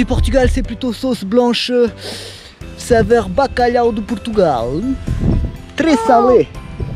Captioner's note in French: accent portugais